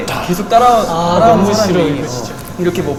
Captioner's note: sigh